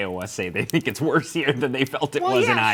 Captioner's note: laughing